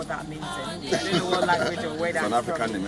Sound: laughing

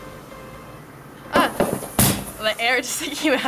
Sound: ping pong ball popping

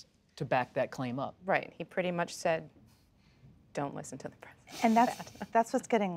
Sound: laughter

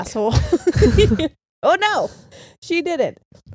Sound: both giggle

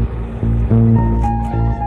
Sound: horn blowing

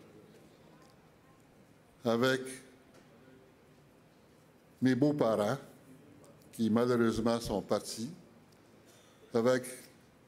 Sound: speaking French

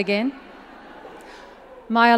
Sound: audience chuckles

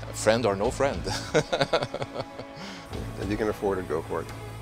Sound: laughs

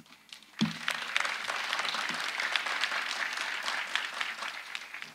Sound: audience applauding

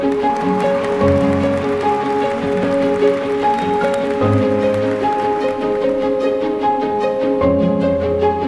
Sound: applause, cheers

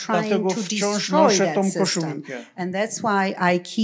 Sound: foreign language

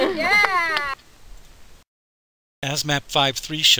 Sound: cheering

